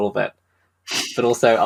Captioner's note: laughs